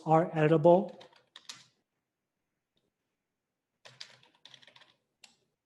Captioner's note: keyboard clattering